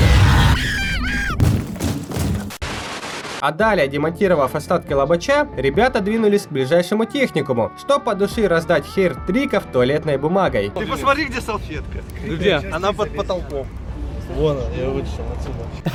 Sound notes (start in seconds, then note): 0.0 screaming; 0.0 sounds of desctruction